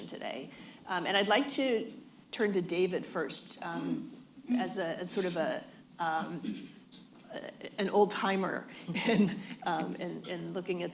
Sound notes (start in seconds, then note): 8.9 laughter